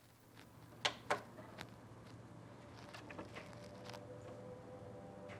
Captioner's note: record player clicks